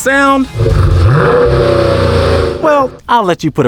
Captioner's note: revving